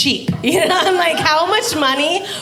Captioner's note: laughing